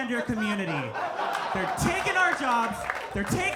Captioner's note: audience laughing